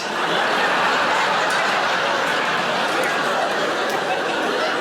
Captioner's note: audience laughing